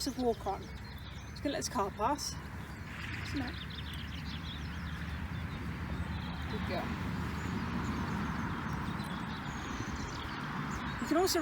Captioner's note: wait for car noise to pass